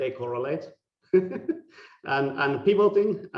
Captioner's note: laughing